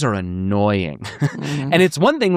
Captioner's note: chuckles